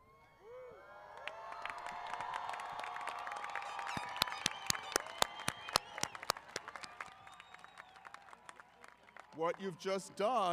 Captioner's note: applause & Cheering